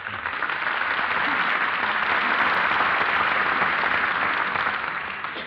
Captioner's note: applause